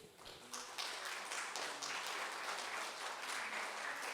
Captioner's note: crowd applauds